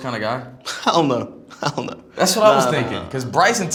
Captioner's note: laughs